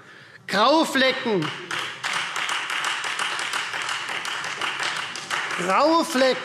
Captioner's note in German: Beifall Freie Demokraten